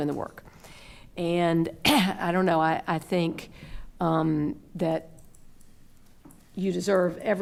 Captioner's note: coughs